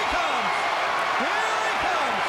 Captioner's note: crowd cheers